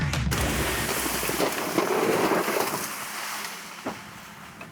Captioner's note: tree crashes